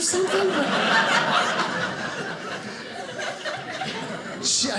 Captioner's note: audience laughing